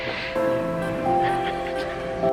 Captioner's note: laughter